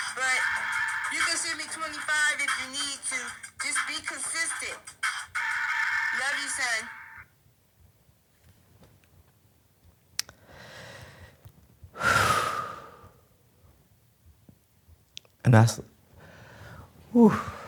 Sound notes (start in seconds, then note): 11.9 exhales deeply